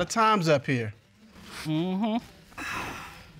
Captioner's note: sighs